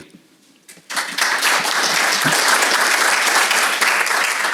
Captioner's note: audience applauding